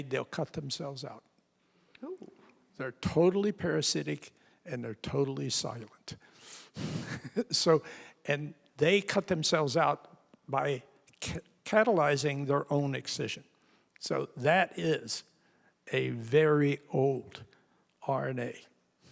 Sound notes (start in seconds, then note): 6.8 chuckles